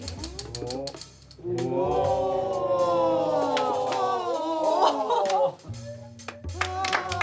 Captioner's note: all exclaiming; applause